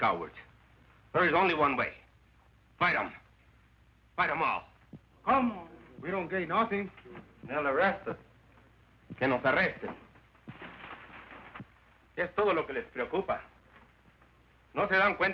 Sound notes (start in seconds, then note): 8.6 Ramon speaking Spanish